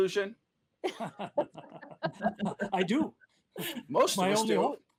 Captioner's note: laughter